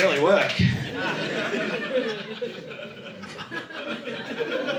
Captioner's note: audience laughing